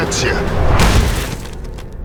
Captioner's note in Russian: шмяк